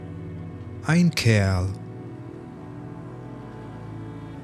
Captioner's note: german